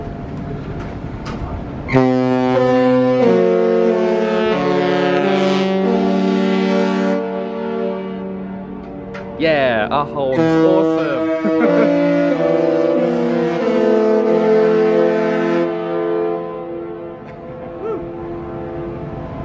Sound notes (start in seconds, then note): 1.8 ship horn blasts; 11.2 chuckles